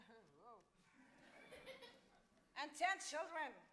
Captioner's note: crowd laughs